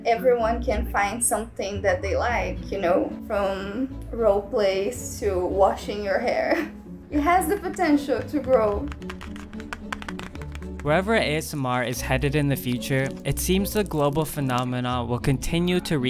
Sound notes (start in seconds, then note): 9.0 fingers tapping palette